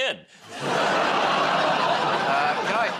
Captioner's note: laughter